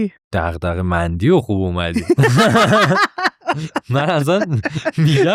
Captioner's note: laughs